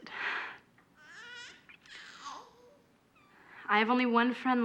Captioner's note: baby crying